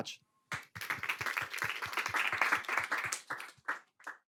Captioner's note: applause